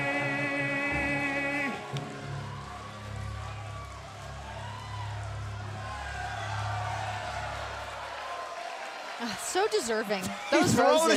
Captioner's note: crowd cheering